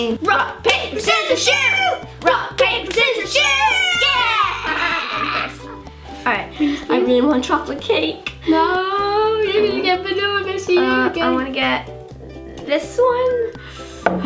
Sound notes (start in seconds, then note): 4.1 laughing